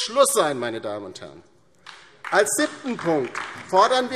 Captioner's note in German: Beifall DIE LINKE und vereinzelt SPD